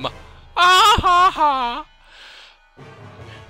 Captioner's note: laughing At Poorly Made Pun